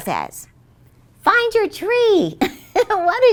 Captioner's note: chuckles